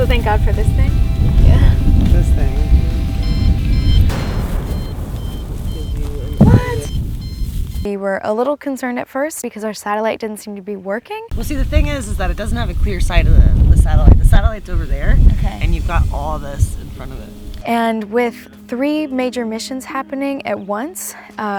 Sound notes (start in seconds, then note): 3.4 beeping; 15.3 tense music